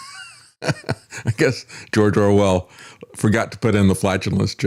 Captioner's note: laughing